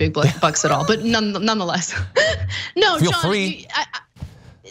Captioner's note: laugh